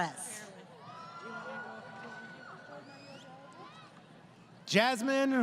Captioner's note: crowd Cheering